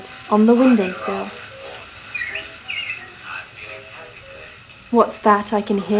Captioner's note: 1940s MUSIC; birds tweeting